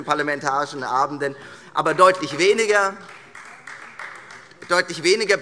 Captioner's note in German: Beifall Freie Demokraten